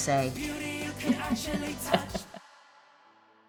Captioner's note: laughing